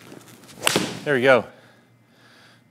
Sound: golf ball thwacks; golf ball thwacks again

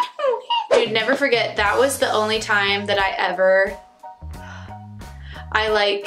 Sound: sigh

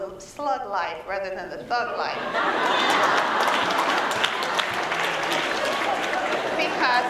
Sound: laughter

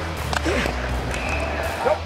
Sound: whistle

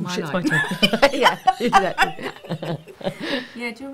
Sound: laughing

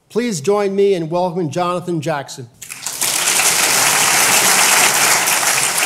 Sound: applause

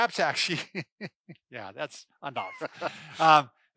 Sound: laughs

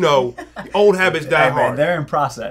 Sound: laughs

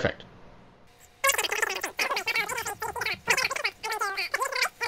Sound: voices squeaking

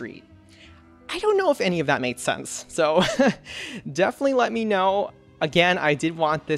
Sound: laughs

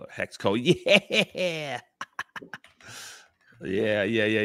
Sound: laughs

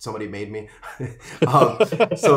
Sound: laughs

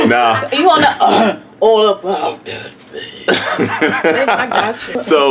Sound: clears throat

